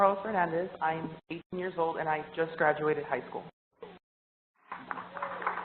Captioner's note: applause